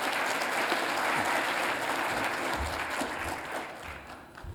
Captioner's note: applause